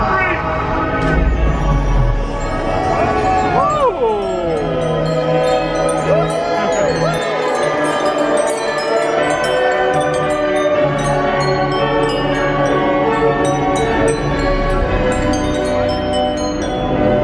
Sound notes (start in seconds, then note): 1.9 dramatic orchestral music; 5.6 bells dinging overhead; 8.6 inspirational orchestral music; 11.2 bells dinging overhead